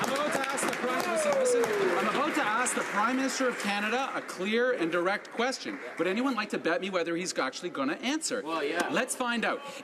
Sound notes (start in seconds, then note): 2.5 some Applause